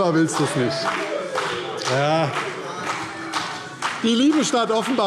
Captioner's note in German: Vereinzelter Beifall CDU und BÜNDNIS 90/DIE GRÜNEN